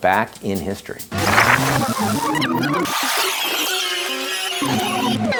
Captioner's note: record scratching